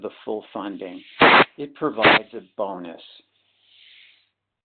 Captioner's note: sliding static